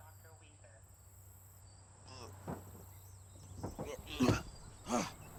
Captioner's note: groans